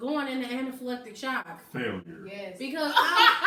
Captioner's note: deep voice; laughs hysterically